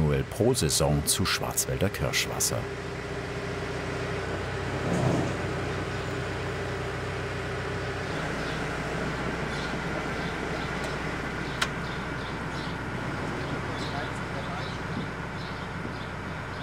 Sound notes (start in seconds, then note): 4.8 engine rattling; 9.6 birds chirping